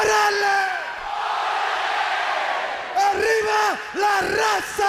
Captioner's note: speaking in foreign language; crowd chatter